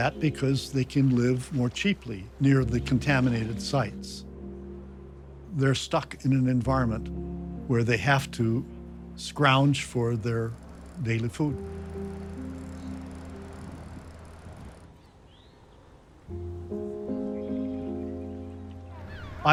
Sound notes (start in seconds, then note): 12.2 dramatic music; 12.2 waves quietly crashing; 16.0 dramatic music